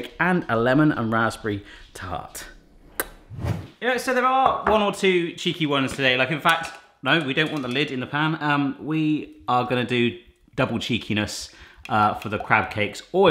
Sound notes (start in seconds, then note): 2.7 kissing; 3.3 air whooshing